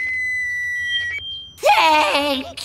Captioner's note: feedback sounding